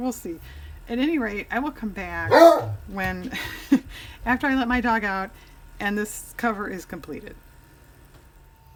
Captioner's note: dog barks